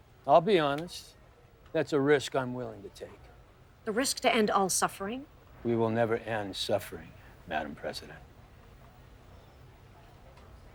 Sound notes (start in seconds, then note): none